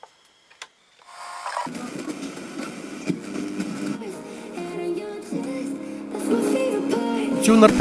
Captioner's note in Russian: Звук радиостанций